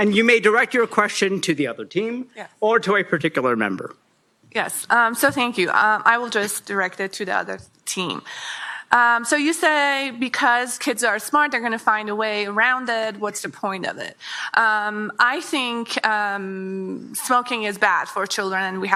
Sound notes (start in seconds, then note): none